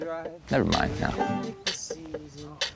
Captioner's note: laughing